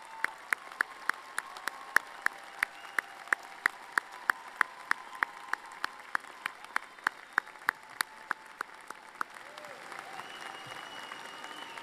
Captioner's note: applause